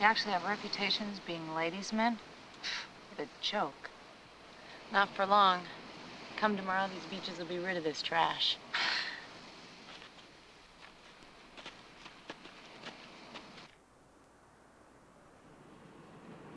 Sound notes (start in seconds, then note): 2.8 scoffs; 8.9 Donna chuckling